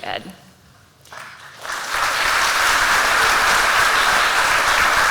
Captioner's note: applause